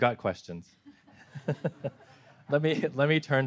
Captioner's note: everyone laughing